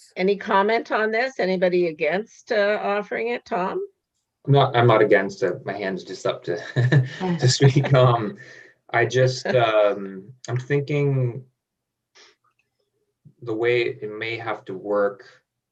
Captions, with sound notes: Any comment on this, anybody against offering it, Tom? - No, I'm not against it. My hands just intercepted. (laughs) I'm thinking the way it may have to work